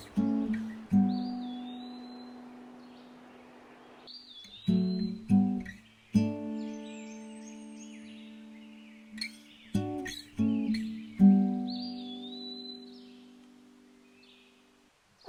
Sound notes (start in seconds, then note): 1.3 birds chirping